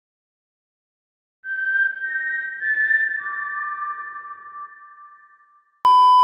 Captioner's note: HungerGameWhistle.mp3